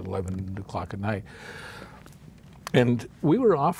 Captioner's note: sharply inhales